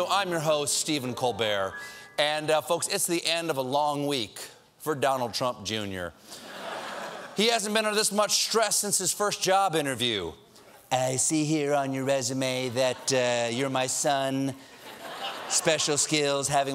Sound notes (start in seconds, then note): 6.4 laughter